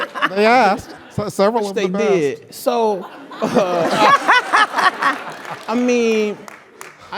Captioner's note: laugh; laugh